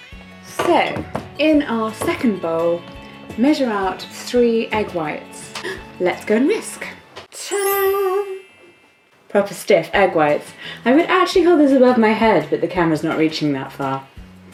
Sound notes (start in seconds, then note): 5.6 gasp